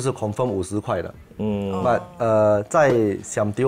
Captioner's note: Ohh